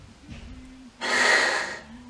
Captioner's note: harsh breath sound